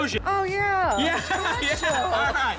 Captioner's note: ding, ding, ding, ding, ding